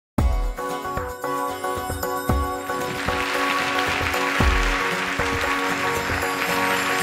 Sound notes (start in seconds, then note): 2.7 applause